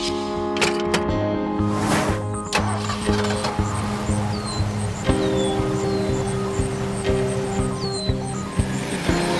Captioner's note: engine starting